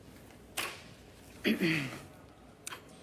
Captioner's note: clears throat